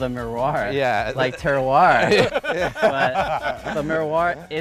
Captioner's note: all laughing